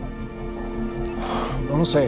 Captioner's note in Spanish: Bip